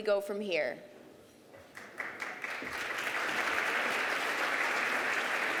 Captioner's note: applause